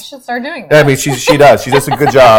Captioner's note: laughing